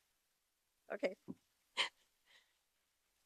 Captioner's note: laughs